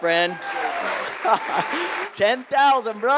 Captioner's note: applause